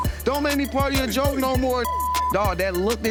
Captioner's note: beep